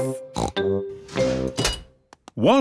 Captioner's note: beeps